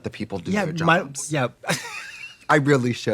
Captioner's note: laughing